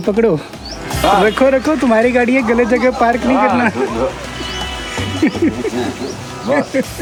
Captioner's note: laughing